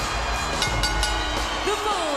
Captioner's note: bell rings